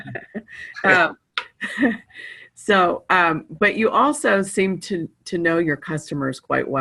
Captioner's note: chuckling